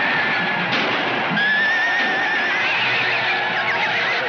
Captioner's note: gunshot fires